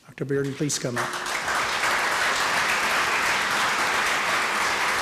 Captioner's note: applause